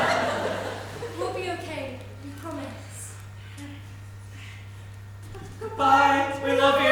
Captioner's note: audience laughs